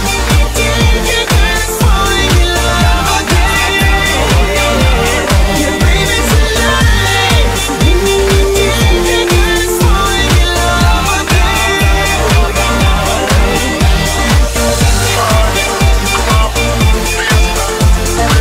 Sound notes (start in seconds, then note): 5.8 woooohoo